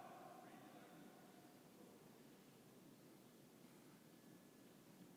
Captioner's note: commander speaking faintly